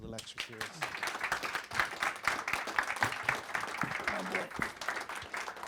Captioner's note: audience applauding